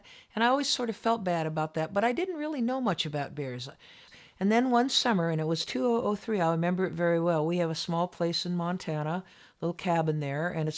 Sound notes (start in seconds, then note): none